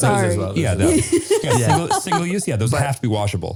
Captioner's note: laughing